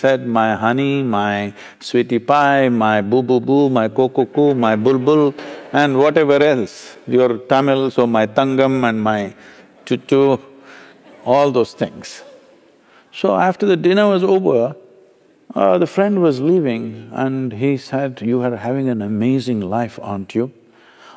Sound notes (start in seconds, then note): 12.3 laughter